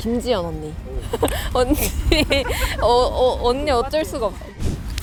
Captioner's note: shy laugh